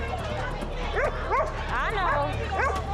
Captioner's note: dog barking